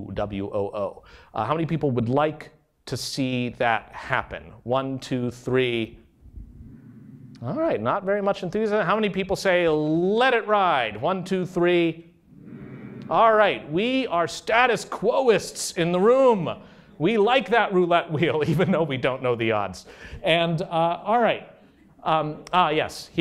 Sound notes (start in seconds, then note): 6.2 soft humming; 12.3 louder humming